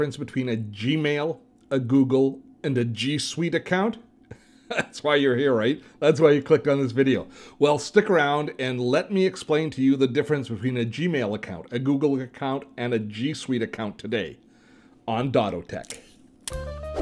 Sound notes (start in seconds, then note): 4.6 laughs; 16.5 quirky music